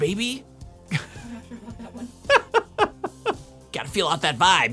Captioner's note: laughing